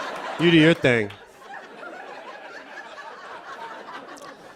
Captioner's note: laughter